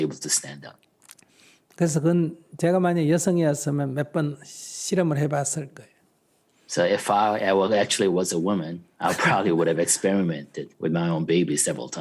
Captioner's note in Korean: 스님 웃음